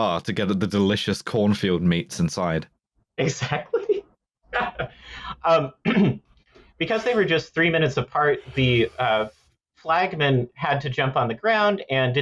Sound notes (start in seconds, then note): 4.5 laughing; 5.7 clears throat